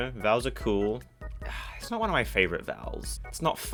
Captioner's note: sigh